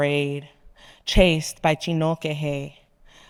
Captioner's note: speaking in foreign language